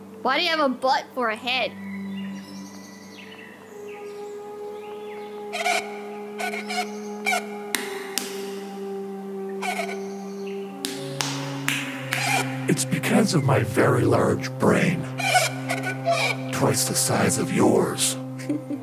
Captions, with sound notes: Why do you have a butt for a head? [reverberated rubbing sounds] [aggressive slaps] It's because of my very large brain. Twice the size of yours.